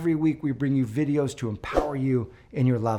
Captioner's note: graphic whooshes